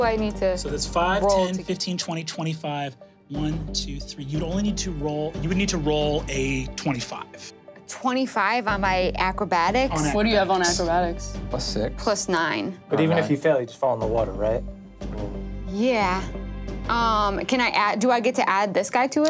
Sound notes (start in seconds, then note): none